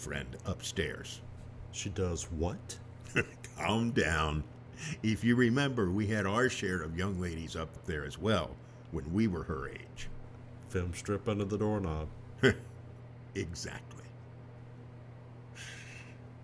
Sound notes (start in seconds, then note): 4.8 chuckles